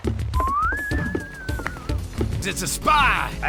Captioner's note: funni whistle